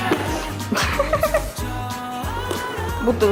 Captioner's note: I hear a dolphin laughing